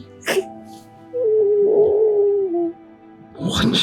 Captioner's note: whimpers